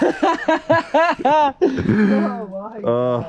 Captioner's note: man laughs